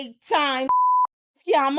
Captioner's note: beep